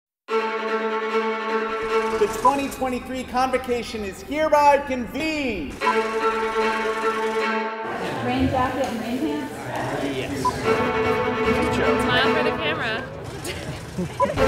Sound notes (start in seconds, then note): 7.8 students Talking; 13.4 laugher